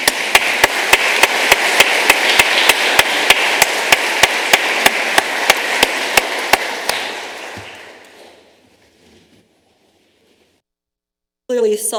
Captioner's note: applause